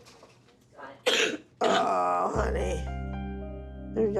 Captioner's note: coughing continues